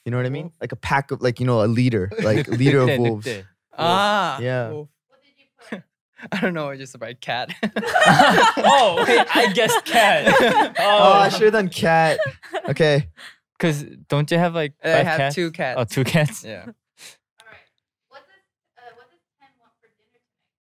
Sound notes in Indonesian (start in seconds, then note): 7.5 tertawa